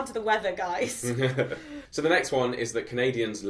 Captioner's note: chuckles